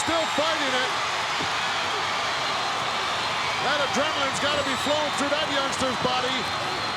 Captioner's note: applause